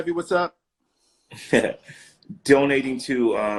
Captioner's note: laughing